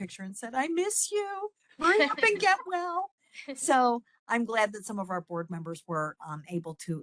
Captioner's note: laughing